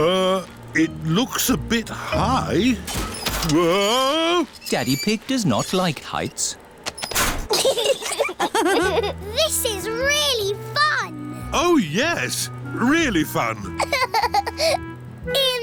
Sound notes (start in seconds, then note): 7.5 laughter; 13.6 laughs